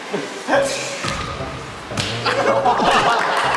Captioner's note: clap